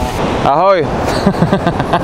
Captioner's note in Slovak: smiech